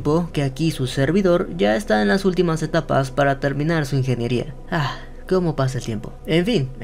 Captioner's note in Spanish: suspiro